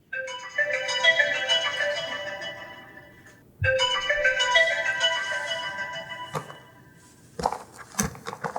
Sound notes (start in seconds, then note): 0.2 alarm ringing